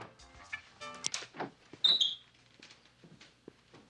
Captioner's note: none